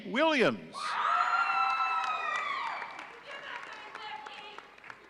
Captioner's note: audience cheering